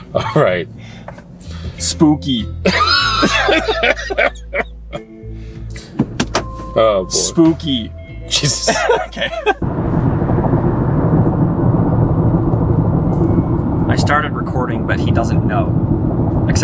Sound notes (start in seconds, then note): 2.6 both laughing; 8.6 laughing